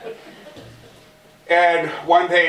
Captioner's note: laughter